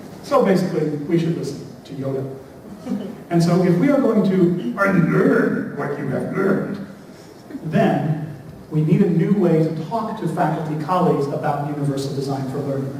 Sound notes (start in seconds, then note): 4.1 using yoda voice